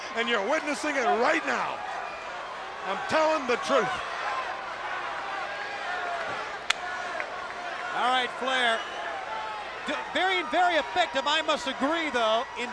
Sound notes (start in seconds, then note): 4.7 crowd cheering